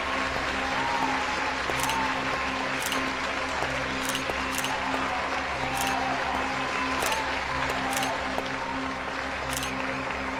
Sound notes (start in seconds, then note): 1.0 crowd applauding